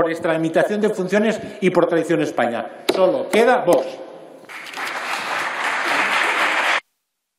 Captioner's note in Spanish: Aplausos